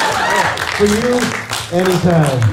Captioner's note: laughter